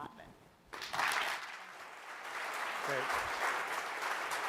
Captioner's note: applause